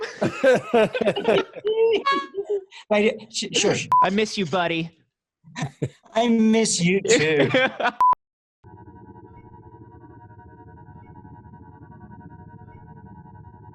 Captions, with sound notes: [CHUCKLING] - Shush. - I miss you, buddy. - I miss you too. [BEEPING]